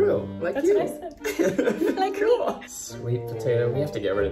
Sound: laughs

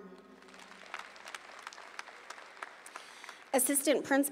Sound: audience applauding

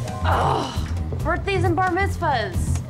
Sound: groans

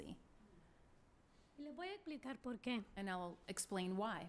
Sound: speaking spanish

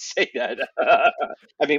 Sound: laughter

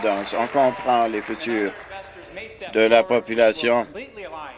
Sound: applause

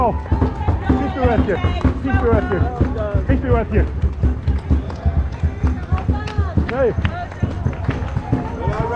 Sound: loads of folk cheering me on. Sounds of drums

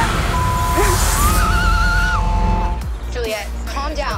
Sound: beep

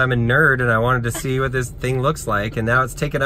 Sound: woman laughs

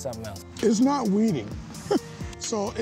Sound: chuckles

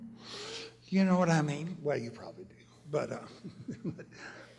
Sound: laughs

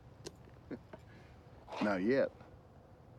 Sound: chuckling

